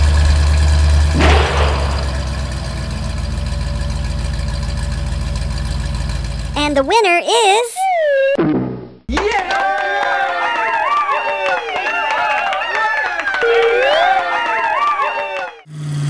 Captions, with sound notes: [ slam] and the winner is ..... [ bonk] [ cheers and clapping]